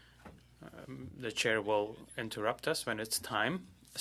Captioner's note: speaking French